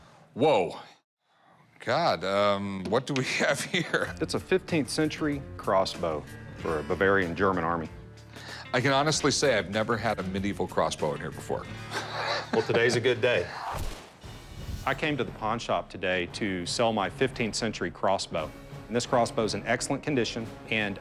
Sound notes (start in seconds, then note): 3.2 chuckles; 11.8 laughs